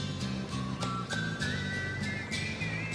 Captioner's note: none